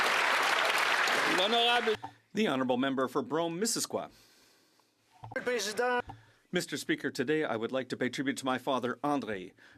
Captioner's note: applause